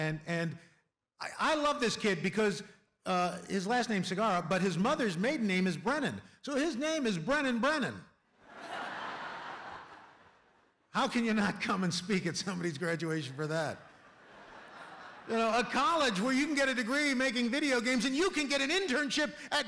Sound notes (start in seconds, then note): 8.4 laughter